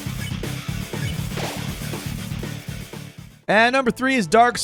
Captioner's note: heavy metal music; electronic beeping